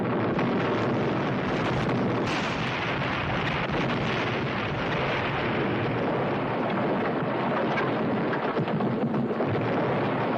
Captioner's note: house exploding